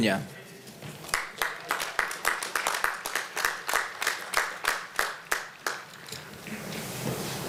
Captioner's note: applause